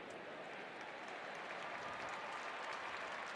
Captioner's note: applause